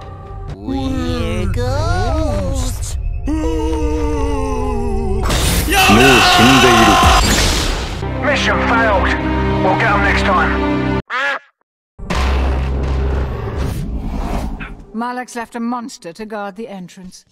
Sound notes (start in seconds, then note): 0.5 Spongebob and Patrick voices; 8.0 sad music